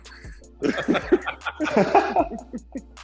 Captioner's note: laughs